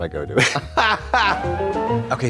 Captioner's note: Trixie hee-hees; bright chime